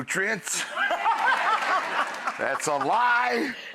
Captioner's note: audience laughs